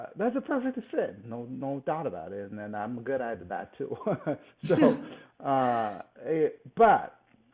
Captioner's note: laughs